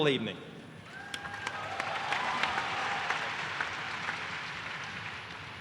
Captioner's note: applause